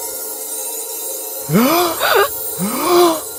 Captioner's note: ST gasps; Teddy gasps